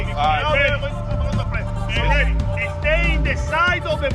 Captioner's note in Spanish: charla del equipo